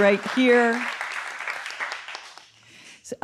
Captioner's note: audience applauding